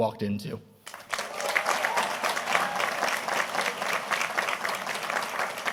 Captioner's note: audience applauding